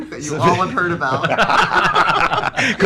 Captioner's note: laughs